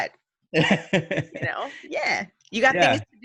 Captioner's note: laughs